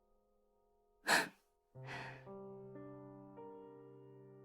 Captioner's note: scoffs